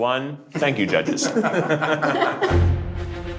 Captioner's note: group laughs; suspenseful music